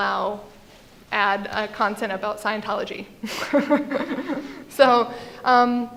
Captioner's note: laughs